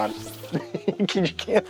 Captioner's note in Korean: 웃음